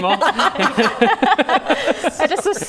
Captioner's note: laughing